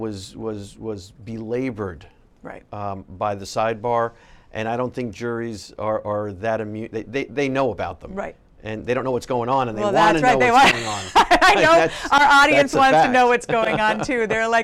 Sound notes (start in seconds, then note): 10.3 laughing